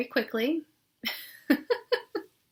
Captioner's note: laughing